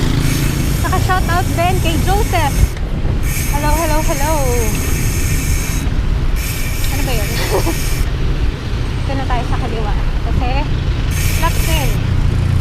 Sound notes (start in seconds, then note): 7.1 laughs